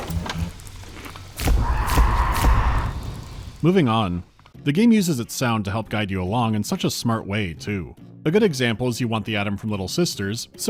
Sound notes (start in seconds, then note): 1.4 thwops of flash photography and deranged screaming